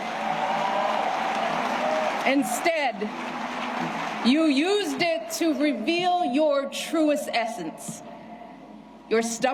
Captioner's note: cheers and applause